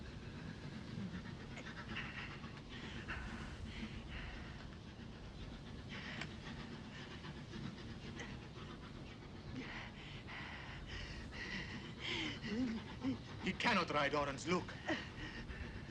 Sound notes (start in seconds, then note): 1.0 train approaching